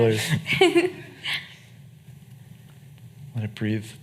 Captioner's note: laughing